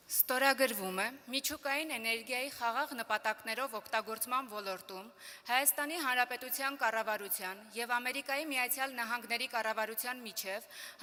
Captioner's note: speaking Armenian